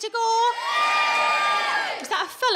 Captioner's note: audience cheers